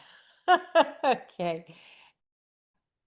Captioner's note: laughter